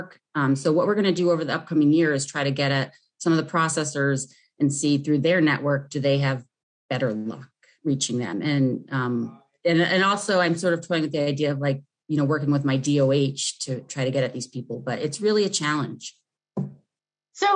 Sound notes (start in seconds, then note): none